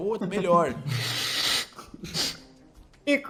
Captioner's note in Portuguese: risadas